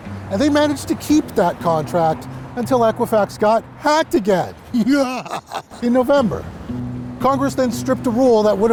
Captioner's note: laughing